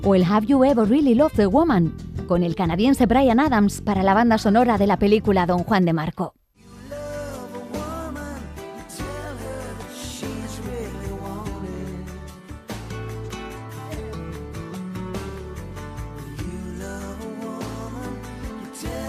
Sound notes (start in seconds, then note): 2.4 speaking in Spanish